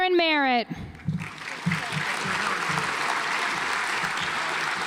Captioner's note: audience applauds